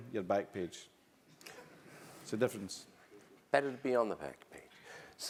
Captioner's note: laugh